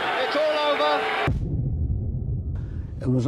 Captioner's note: thud booms